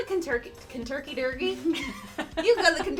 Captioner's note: laughing; laughs